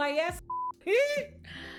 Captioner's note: beep